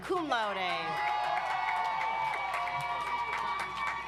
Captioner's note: audience applauds